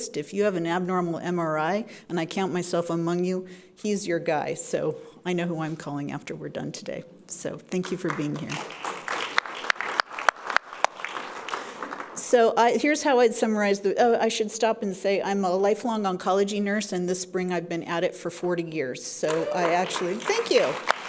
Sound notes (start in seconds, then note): 7.8 audience clapping